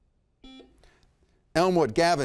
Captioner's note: buzzer beeps